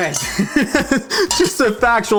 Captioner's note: laughs